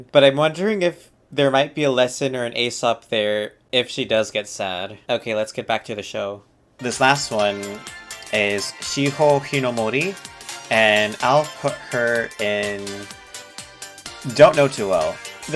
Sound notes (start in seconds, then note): none